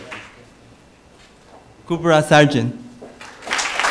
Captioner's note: applause